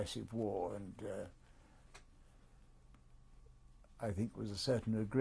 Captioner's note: pauses for 3 seconds